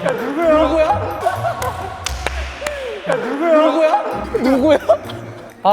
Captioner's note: laughing